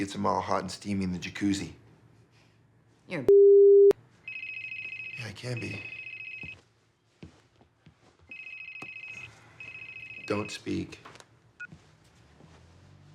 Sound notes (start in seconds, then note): 4.2 cell phone ringing; 11.4 cell phone beeps